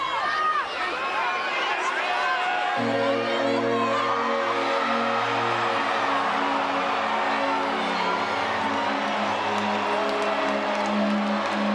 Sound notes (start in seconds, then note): 2.8 dramatic music; 4.0 crowd chattering